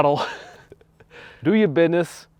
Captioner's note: chuckles